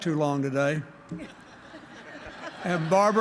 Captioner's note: laughter